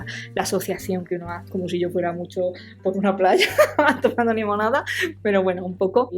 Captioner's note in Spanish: risas